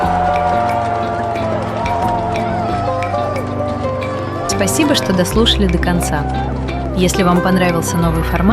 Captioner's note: аплодисменты